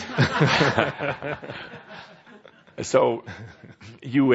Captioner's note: laughter